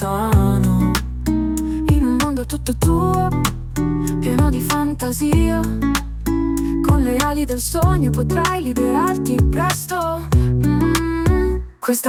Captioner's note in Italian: mmm